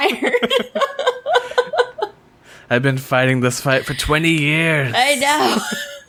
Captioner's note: laughs